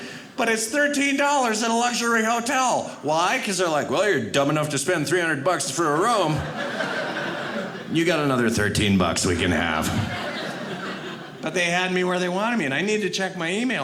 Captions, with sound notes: but it's $13 at a luxury hotel. Why? 'Cause they're like, "Well, you're dumb enough "to spend 300 bucks for a room, (audience laughing) "You got another 13 bucks "we can have." (audience laughing) But they had me where they wanted me and I needed to check my email.